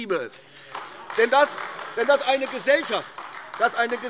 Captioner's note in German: Beifall AfD - Zurufe